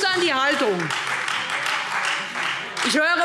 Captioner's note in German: Beifall Freie Demokraten